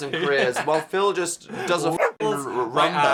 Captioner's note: dog barking